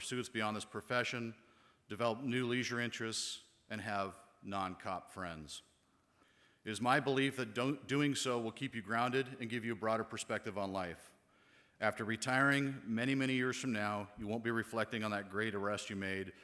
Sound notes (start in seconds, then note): none